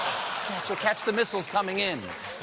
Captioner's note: laughter